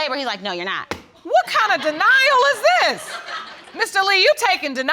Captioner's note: audience laughs